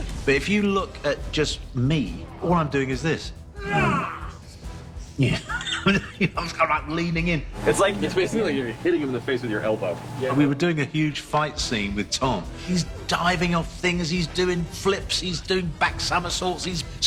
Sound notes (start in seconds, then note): 3.5 Molina grunts, chuckles